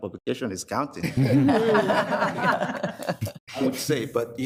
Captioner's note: group laughs